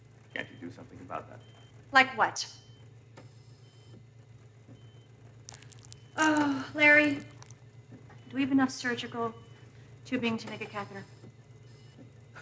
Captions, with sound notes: - Can't you do something about that? - Like what? (sighs) Larry, do we have enough surgical tubing to make a catheter?